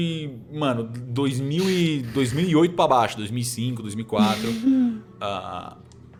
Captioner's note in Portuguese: risos